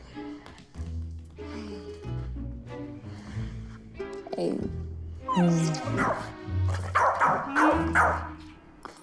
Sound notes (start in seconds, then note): 5.2 dog whining; 6.8 dog barking